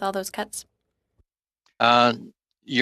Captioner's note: speaking French